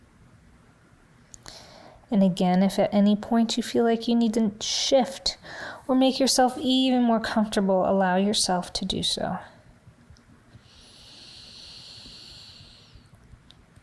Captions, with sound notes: And again, if at any point you feel like you need to shift or make yourself even more comfortable, allow yourself to do so. (breathing deeply)